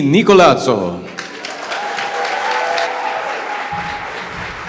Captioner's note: audience applauds